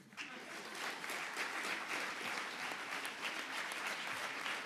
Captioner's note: audience applauding